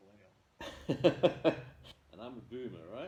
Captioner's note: laughter